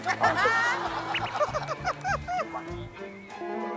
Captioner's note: throbbing